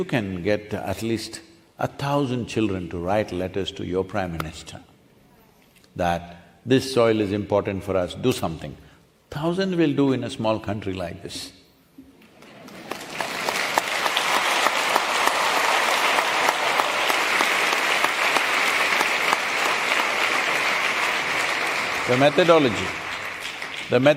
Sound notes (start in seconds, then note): 17.2 applause